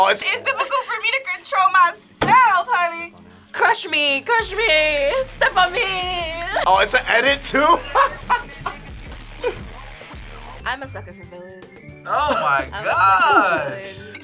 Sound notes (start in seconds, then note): 9.2 laughs